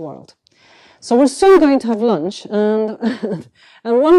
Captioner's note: chuckles